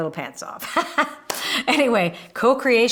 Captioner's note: laughing